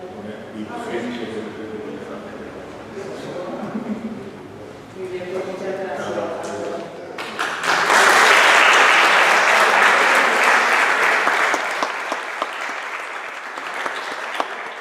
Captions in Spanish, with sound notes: Muchas gracias (aplausos)